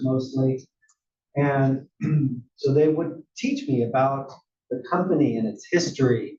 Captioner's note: cough